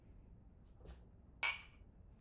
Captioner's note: glasses clinking